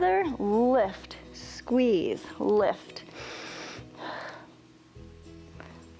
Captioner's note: inhales and exhales